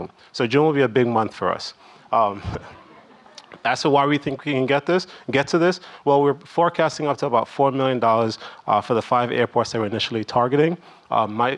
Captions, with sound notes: So June will be a big month for us. (audience laughing) Ask why we think we can get to this? Well we're forecasting up to about $4 million for the five airports that we're initially targeting.